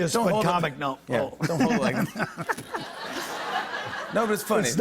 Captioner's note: laughter